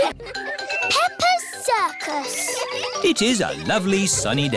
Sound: children giggling

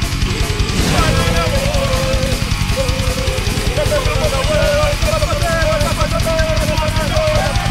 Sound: group chanting

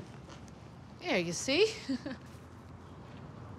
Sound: chuckles

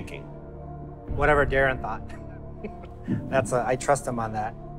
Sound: laughs

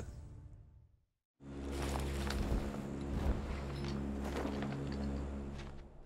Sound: parachutes flapping

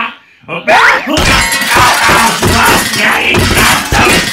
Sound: sounds of Pain!

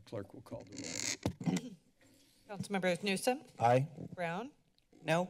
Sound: clears throat

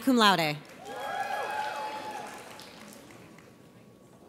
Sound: audience cheers

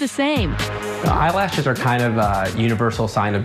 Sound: man's voice

